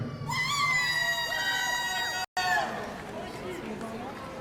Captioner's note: audience cheering